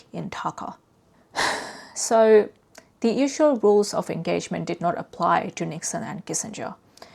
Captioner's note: sighs